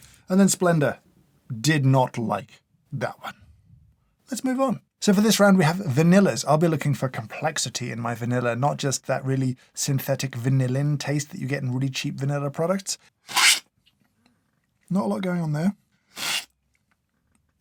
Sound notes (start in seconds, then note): 13.3 slurp; 16.1 slurp